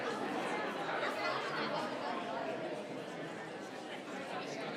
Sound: people chattering

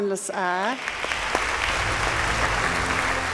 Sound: audience clapping

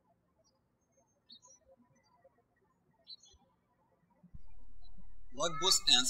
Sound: birds chirping

